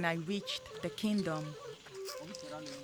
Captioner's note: indistinct chatter